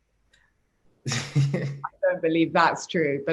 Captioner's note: laughs